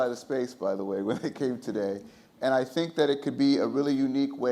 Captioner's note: laughs